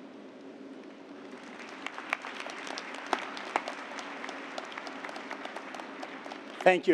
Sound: applause

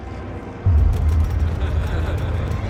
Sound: laughter

